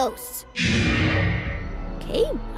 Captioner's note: growling